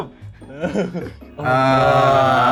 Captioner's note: nervous laughter